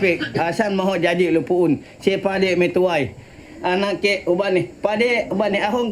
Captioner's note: speaking in foreign language